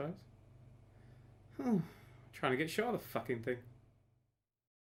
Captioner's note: sigh